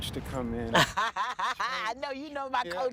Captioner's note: laughs